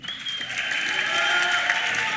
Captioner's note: applause